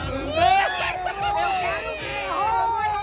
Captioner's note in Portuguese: gritos; risos